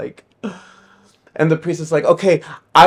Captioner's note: gasping